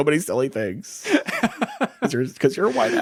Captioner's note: laughing